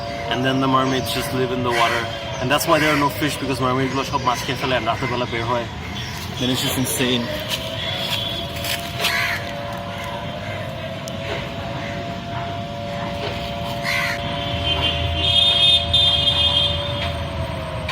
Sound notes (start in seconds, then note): 16.1 distant sirens